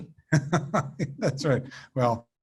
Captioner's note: laughs